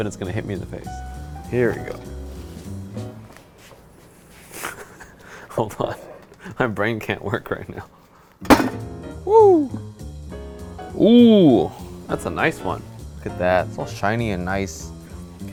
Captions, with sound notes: and it's going to hit me in the face. Here we go. (laughs) Hold on, my brain can't work right now. (pan slamming onto cutting board) Whoo! Ooh, that's a nice one. Look at that, it's all shiny and nice.